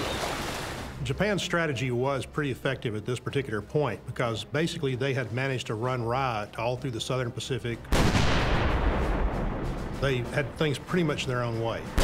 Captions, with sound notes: - Japan's strategy was pretty effective at this particular point, because basically they had managed to run riot all through the Southern Pacific. (cannon shot exploding) They had things pretty much their own way.